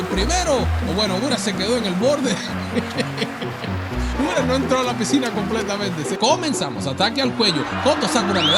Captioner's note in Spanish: risas